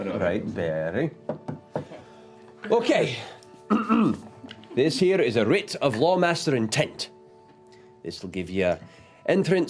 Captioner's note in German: Räuspern